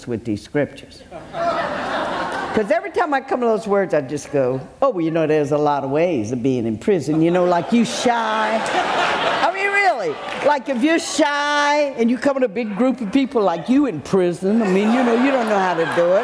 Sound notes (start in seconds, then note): 1.1 audience laughs loudly; 8.5 audience laughs; 9.9 audience laughing loudly; 14.6 audience laughing and clapping